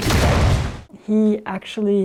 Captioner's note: structure exploding